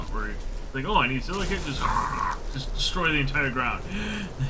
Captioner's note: destruction sound